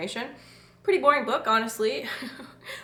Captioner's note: chuckles lightly